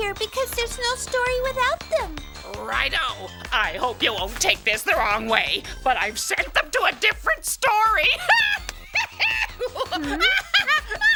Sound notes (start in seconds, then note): 8.1 cackling